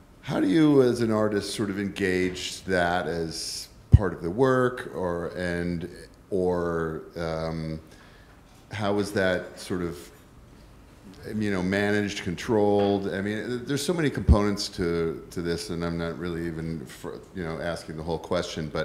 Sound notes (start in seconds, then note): none